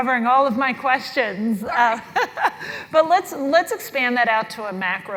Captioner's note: laugh